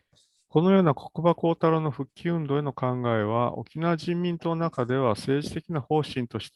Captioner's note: speaks in Japanese